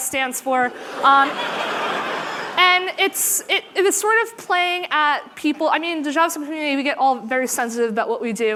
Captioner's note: laughter